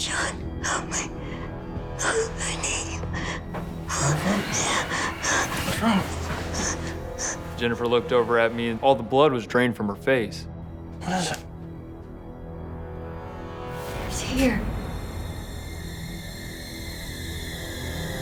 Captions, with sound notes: (panting) - Jennifer? What's wrong? - Jennifer looked over at me. All the blood was drained from her face. - What is it? - He's here. (dramatic music)